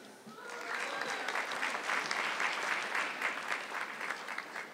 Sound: audience clapping

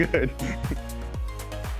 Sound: laughing

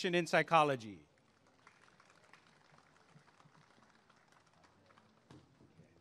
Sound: applause and cheering

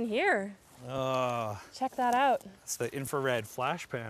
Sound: groaning

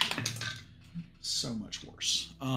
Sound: dice rattling

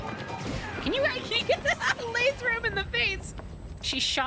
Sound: laugh

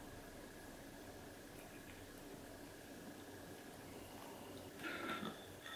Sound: gulp

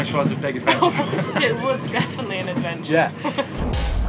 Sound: laughs; dramatic music

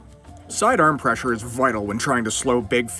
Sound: voiceover

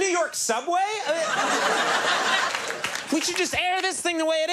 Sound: audience laughs

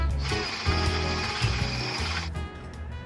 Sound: whirring

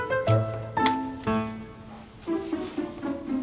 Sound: clicks

